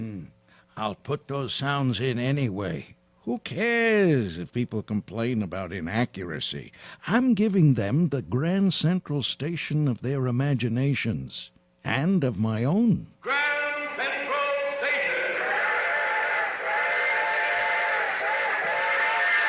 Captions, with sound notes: >> Hmm. I'll put those sounds in anyway. Who cares if people complain about inaccuracy? I'm giving them the Grand Central Station of their imaginations and of my own. >> Grand Central Station. [ Train whistle blowing ]